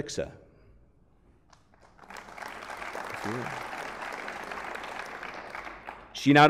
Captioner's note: applause